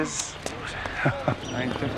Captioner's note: Mitch laughs to the footsteps of rejection